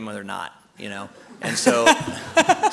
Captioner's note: laughter